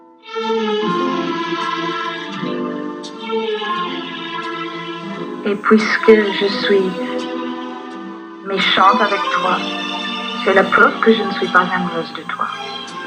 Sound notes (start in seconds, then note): 0.1 romantic music; 5.3 voiceover of woman speaking in french